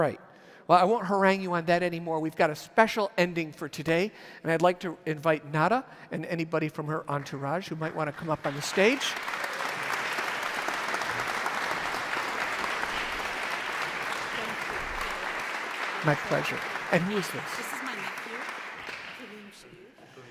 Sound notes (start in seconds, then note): 10.5 audience applauds